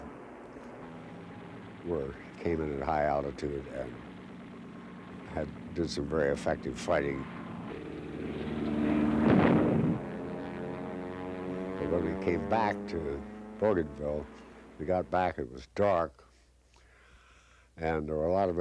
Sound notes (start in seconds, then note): 7.6 booming; 7.6 engine whistling